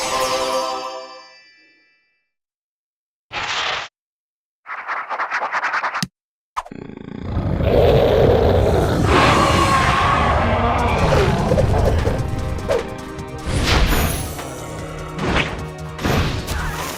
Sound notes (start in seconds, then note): none